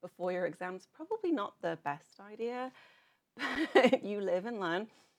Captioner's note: giggles